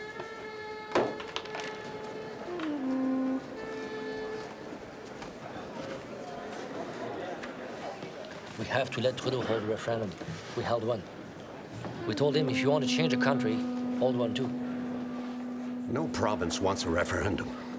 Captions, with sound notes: (people chatter indistinctly) - We have to let Trudeau hold a referendum. We held one. We told him, "If you wanna change a country, hold one, too." - No province wants a referendum.